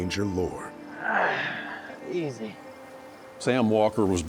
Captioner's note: grunt